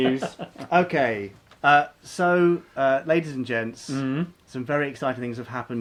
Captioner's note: laughing